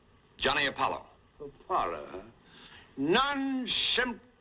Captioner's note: none